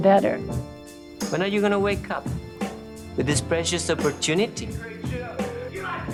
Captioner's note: male voice-over into video